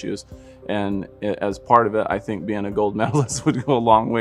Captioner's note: laughs